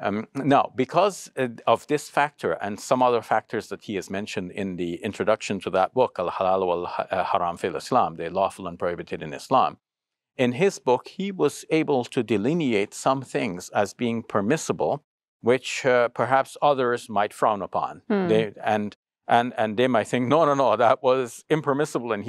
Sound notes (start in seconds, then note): 6.2 speaks Arabic